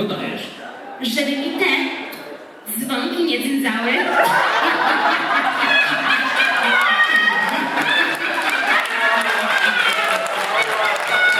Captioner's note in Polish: śmiech; Aplauz